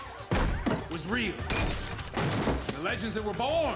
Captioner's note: woman scream, glass shatters